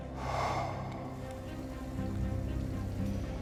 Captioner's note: exhales